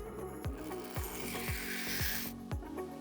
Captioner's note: whirring